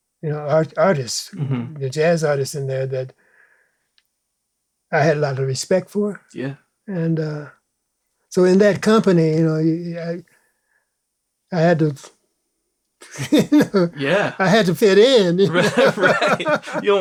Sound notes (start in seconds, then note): 15.1 laughs; 15.4 laughter